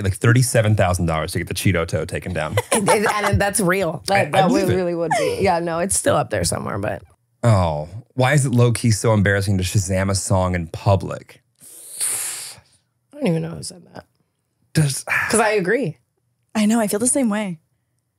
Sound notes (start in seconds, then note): 2.2 laughing